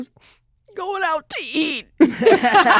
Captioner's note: crying; laughter